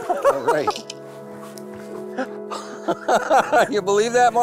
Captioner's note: laughs